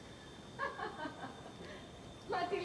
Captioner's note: γέλιο